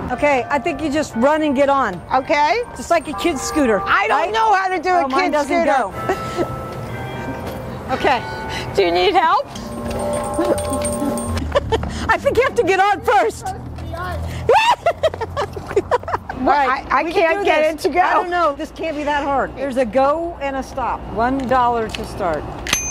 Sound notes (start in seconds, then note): 10.3 bells chiming; 11.6 woman laughing; 14.5 laughing